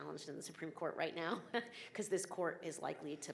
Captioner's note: chuckling